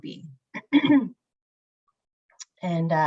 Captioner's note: clears throat